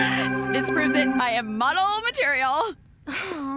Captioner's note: giggles